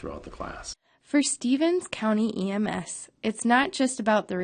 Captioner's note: voiceover